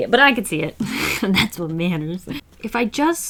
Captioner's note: laughs